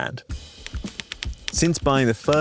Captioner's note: groovy upbeat music; keyboard keys tapping